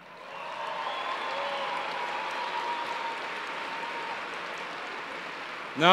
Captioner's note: cheers and applause